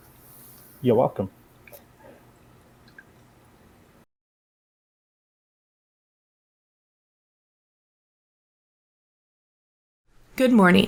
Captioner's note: no audio